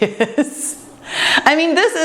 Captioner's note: laughs